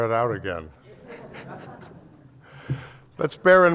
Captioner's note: laughter